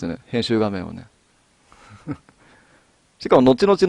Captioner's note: laugh